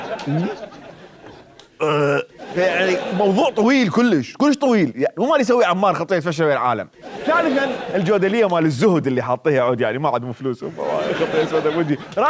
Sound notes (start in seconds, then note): 1.8 burping